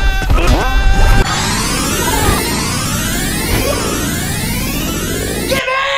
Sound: Mario Screaming; Sonic CD Time Warp

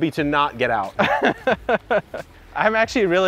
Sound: laughing

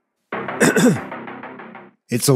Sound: clears throat

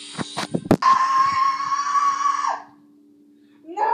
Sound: screaming

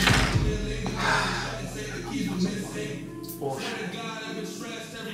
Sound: sighs

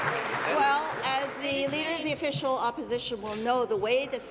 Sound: applause

